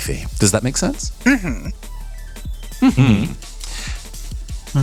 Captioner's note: hums of Agreement